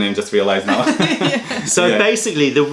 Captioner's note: laughter